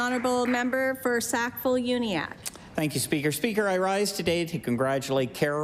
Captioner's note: some Applause